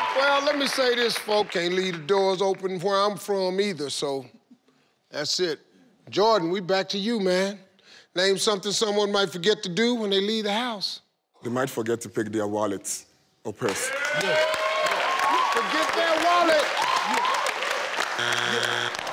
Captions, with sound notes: - Well let me say this, folk can't leave the doors open where I'm from either, so that's it. Jordan, we back to you man. Name something someone might forget to do when the leave the house? - They might forget to take their wallets or purse. (audience cheers) - Forget their wallet.